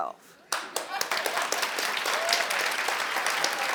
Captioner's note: audience applauds